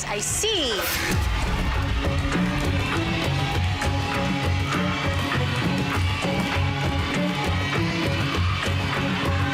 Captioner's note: suspenseful music playing; audience clamoring